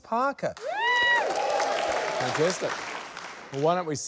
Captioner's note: cheering, applause